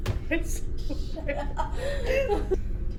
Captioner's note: laughing